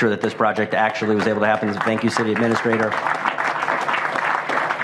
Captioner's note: applause